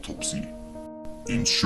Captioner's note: sound cue